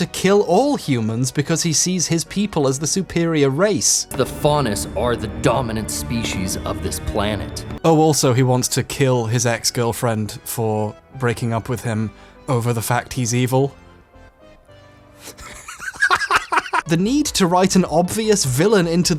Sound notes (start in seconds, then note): 15.2 laughing hysterically